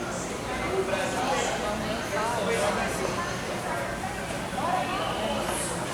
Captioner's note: making small talk